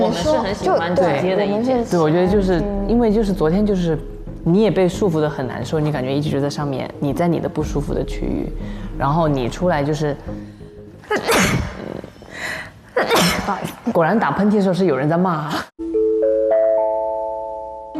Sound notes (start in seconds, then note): 11.1 sneeze once; 13.0 sneeze twice